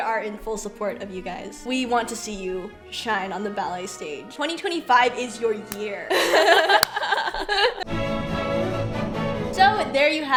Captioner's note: laughs